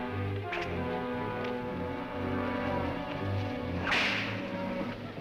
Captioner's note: whip cracks